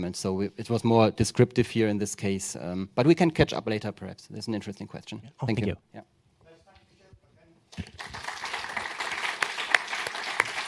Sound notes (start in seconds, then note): 7.7 applause